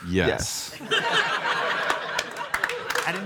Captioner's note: audience laughs and applauds